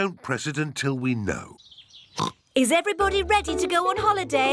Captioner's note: oinks